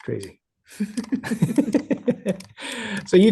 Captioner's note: laughing